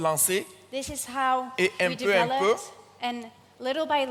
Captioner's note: continues in French; continues in French